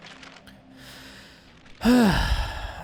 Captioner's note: sigh